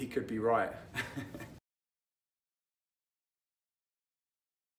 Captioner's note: chuckles